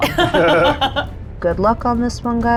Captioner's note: laughs